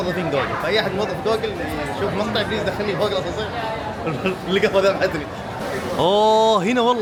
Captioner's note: laughs